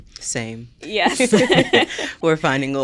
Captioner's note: both laughing